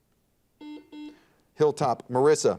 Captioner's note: buzzer dings